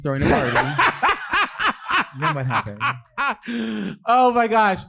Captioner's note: laughing